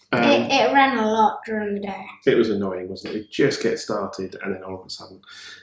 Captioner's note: ring ring